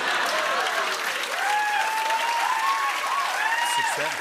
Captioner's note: cheers and applause